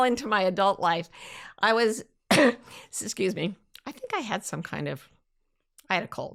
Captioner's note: coughs